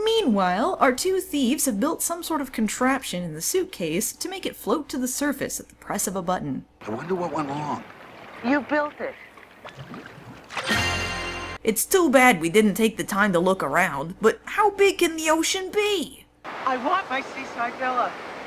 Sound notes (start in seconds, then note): 9.2 bubbling; 10.6 fanfare